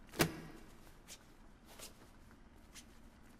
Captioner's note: rope untying